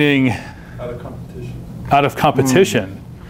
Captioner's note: voiceover